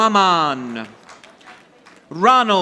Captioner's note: audience applauding